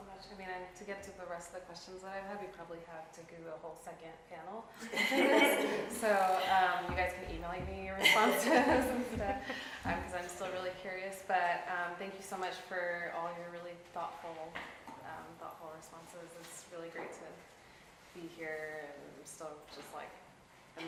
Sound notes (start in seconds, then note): 4.9 audience laughing